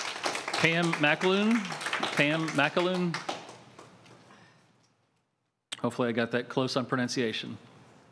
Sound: applause

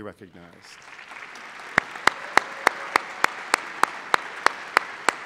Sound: applause

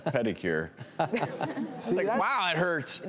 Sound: weak laughing

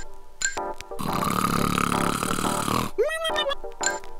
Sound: xylophone plinking; snoring

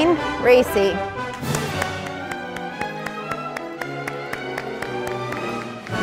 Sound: audience applauding

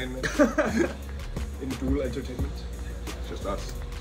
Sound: laugh

